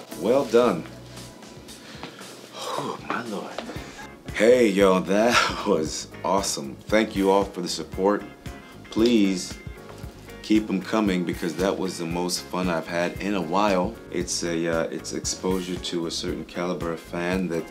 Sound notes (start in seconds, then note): 2.4 sighing